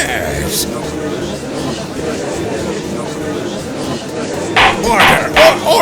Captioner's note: gallery chattering